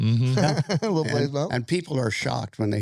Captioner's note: laughing